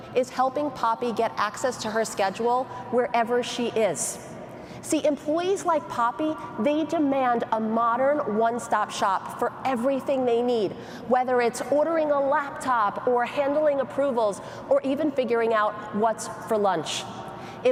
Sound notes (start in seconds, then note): none